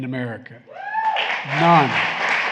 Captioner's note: applause